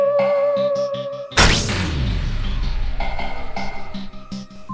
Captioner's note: fuse Popping Sounds